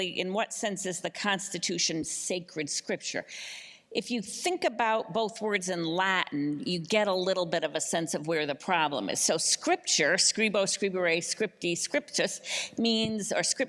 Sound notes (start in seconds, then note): none